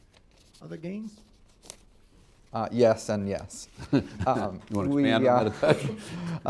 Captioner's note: laughter; laughs